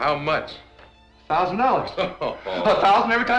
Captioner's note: Faust laughs